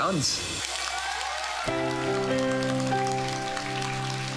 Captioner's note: crowd cheers, applauds